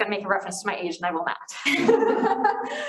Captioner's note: group laughter